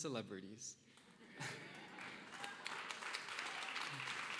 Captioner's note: applause